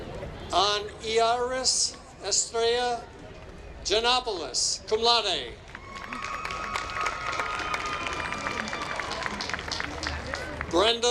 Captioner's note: applause